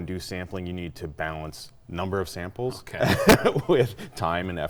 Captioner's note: laughing